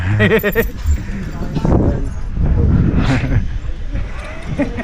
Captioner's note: laughing